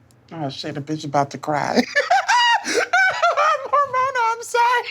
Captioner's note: laughing